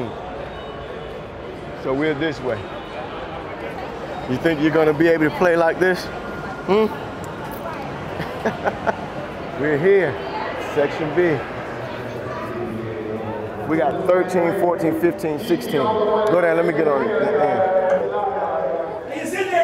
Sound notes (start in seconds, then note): 8.0 laughing